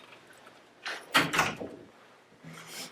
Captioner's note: door closes